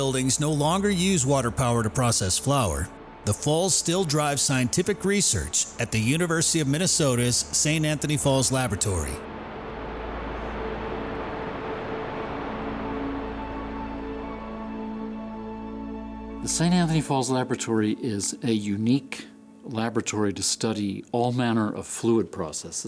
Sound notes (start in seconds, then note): 9.3 soft music; 9.3 water falling